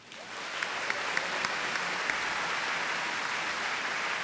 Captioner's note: applause